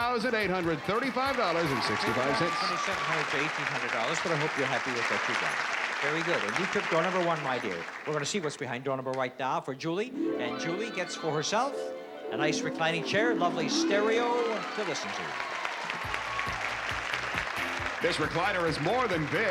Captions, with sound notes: - Well, you went from $2,700 to $1,800, but I hope you're happy with what you got. Very good. And you took door number one, my dear. We're gonna see what's behind door number one right now for Julie. And Julie gets for herself a nice reclining chair and lovely stereo to listen to. [applause] - This recliner is more than big.